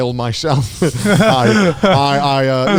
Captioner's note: all laughing